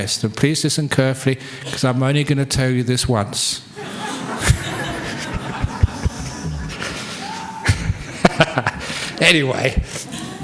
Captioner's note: laughter